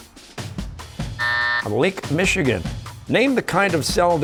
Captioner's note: buzzer